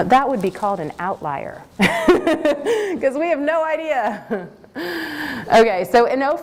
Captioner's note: laughter